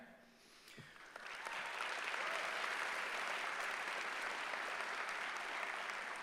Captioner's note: applause